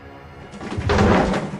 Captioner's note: crash